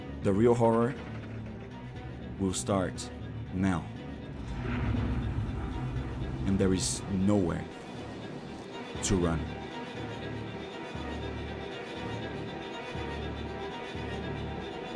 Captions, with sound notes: The real horror will start now. [door opening] And there is nowhere to run. [tense music]